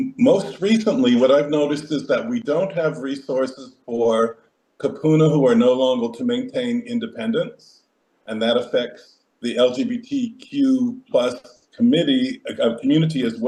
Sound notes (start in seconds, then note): 4.3 speaks Hawaiian